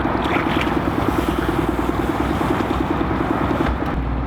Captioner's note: engine rumbling